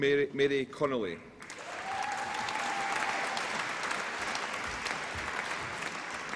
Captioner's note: applause and cheering